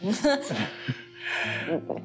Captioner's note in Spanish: Se ríen